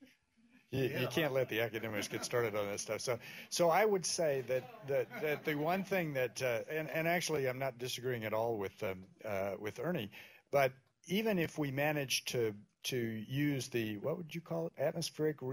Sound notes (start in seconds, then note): 4.5 laughter